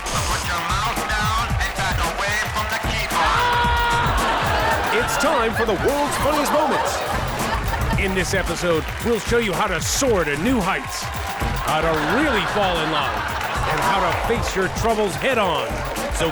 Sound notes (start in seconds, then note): 3.0 man screams; 4.3 audience laughs